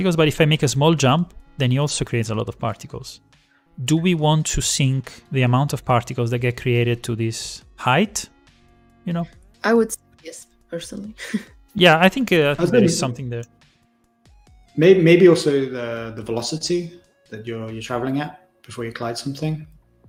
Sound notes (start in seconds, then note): 12.6 laughs